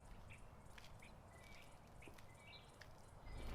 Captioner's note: birds chirping